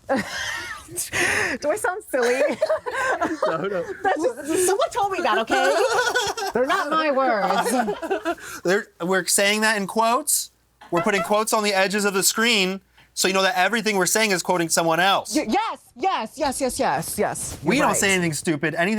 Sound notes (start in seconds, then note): 0.1 laughs; 2.2 both laugh; 5.5 both laugh; 8.0 laughs